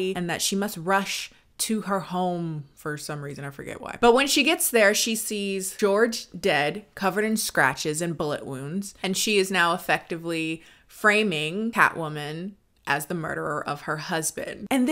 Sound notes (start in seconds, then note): none